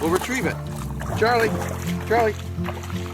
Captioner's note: water splashing; gentle guitar music